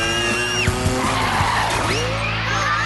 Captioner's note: tires screech